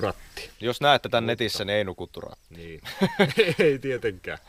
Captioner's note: laughter